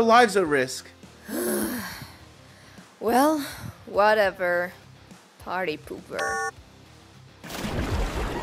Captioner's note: sighs annoyed